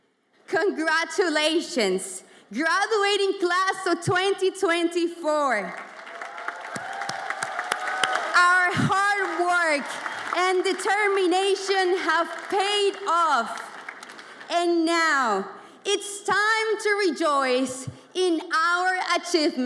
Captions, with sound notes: Congratulations graduating class of 2024. (audience applauds and cheers) Our hard work and determination have paid off and now it's time to rejoice in our achievements together.